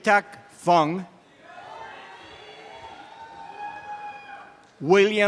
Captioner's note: audience cheering and applause